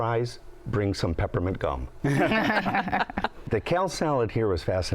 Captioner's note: laughter